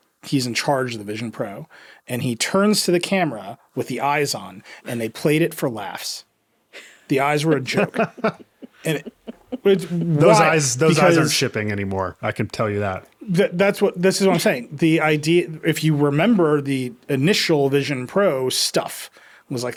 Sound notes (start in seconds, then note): 6.8 laughing